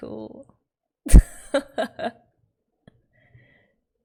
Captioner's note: laughs